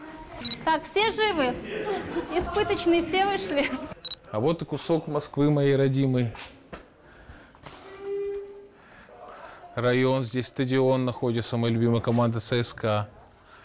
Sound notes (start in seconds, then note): 4.9 laughing